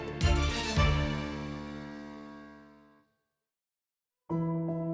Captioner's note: echoes